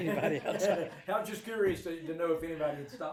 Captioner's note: group laughs